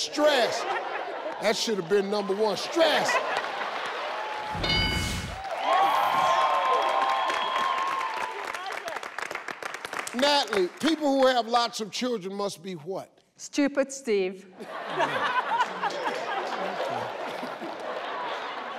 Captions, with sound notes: - Stressed. That should have been number one. Stressed. (people laughing) (people applauding) - Natalie, people who have lots of children must be what? - Stupid, Steve. (people laughing)